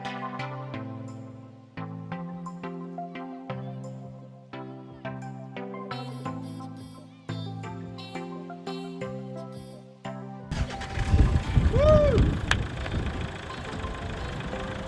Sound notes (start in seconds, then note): 10.5 car starts